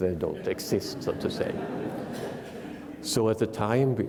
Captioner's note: attendees laughing